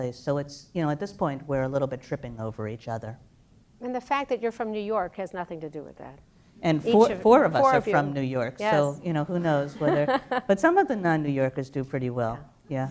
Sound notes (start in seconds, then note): 9.3 laugh